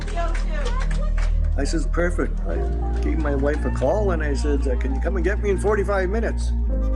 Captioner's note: applause